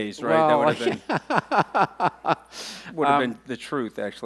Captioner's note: laughing